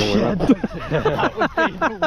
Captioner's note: all laughing